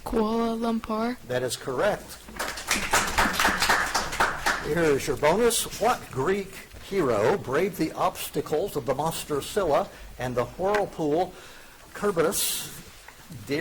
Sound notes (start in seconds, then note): 2.2 audience applauding